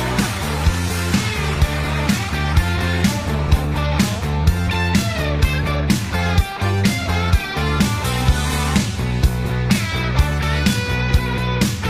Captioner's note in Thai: ปรบมือ